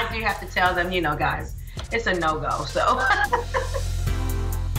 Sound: laughs

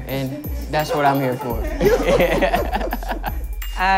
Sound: laughs

